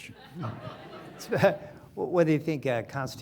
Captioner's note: audience laughing